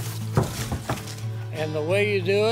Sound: bangboard thumps

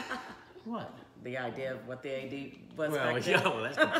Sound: laughing; laughing

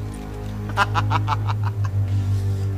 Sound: laughs

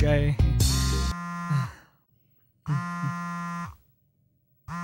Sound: mobile rings again

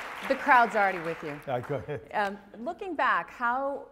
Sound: laugh

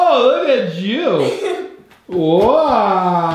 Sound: girl laughs

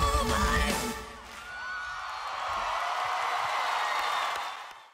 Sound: audience cheers

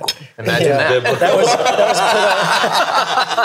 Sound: all laughing

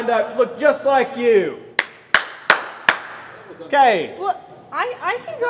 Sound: clapping

